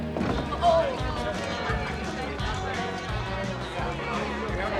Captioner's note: people chattering